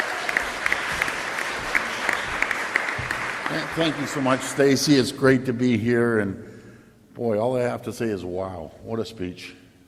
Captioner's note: applause